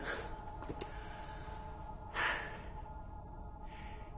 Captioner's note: slGHS